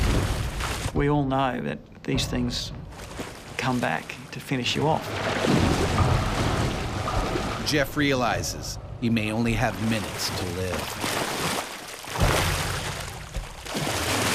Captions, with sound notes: - We all know that these things come back to finish you off. - [Voiceover] Jeff realizes he may only have minutes to live.